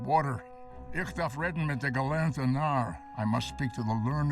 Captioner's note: speaking foreign language